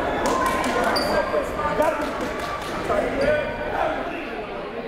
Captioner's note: crowd murmuring